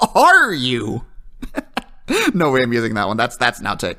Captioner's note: laughter